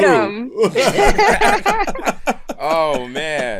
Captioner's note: laughter